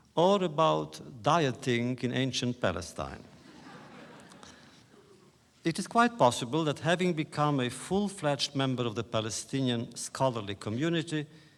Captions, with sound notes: or about dieting in ancient Palestine. (laughter) It is quite possible that having become a full-fledged member of the Palestinian scholarly community